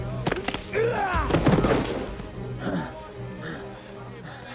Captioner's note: fighters grunting